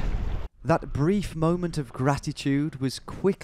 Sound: voiceover

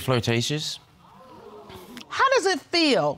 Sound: audience exclaiming

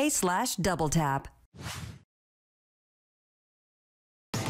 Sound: logo whooshes; inspirational music

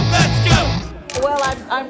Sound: music stops; camera shutters clicking

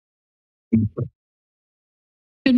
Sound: mic thumps

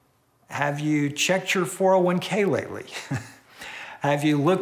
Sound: chuckles

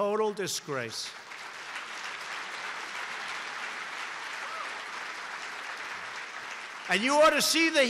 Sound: applause

